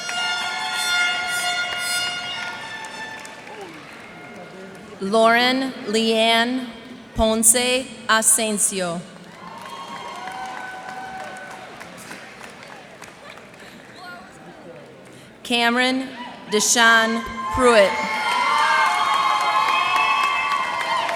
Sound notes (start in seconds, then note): 0.0 cheers and applause; 9.2 cheers and applause; 19.2 cheers and applause